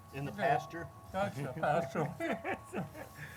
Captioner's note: laughs